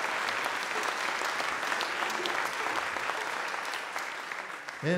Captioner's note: audience Applause